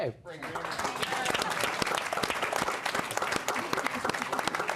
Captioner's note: applause